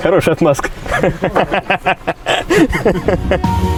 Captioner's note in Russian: смех